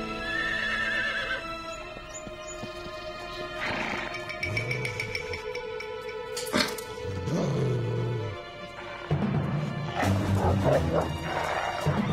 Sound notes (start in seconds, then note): 0.2 horse neighs; 3.5 horse snorts; 4.4 suspense music; 9.8 wolf barking